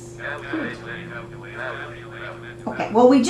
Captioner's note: multiple calculator voices